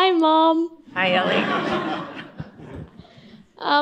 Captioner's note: laughter